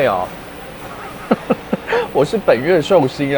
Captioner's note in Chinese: 不失禮的笑聲